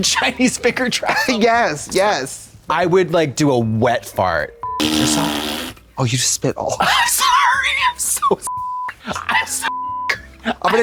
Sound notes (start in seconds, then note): 4.6 beep; 5.5 Katya splats; 8.5 beep